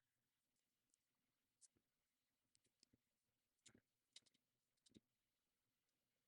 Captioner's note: mouse clicking